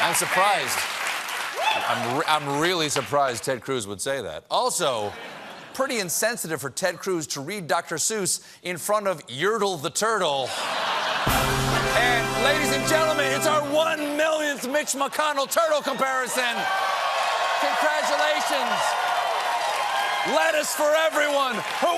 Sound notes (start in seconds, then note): 10.4 laughter; 17.4 cheers and applause